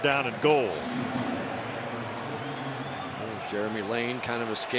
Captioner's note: pa announcement